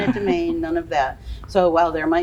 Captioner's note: laughs